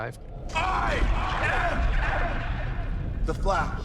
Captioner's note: echoes